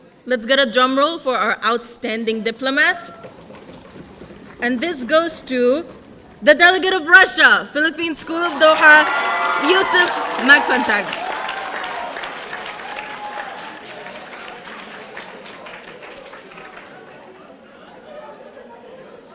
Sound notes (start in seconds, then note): 3.0 audience drumming; 11.2 audience applauding